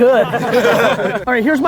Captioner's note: group laughter